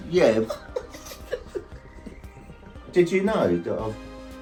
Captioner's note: both laughing